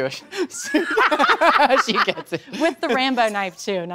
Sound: laughs

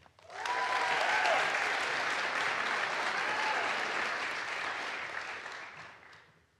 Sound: audience applauds; audience cheers

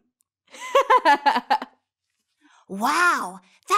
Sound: girl giggles

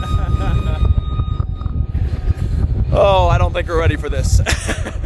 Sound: laughs; chuckles

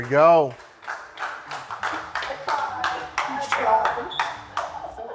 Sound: contestants clapping

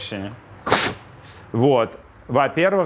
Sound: blows

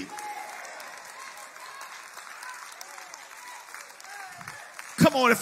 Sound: congregation claps and cheers

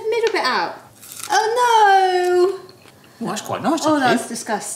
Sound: onion crunches

